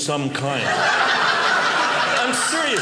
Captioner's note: audience laughing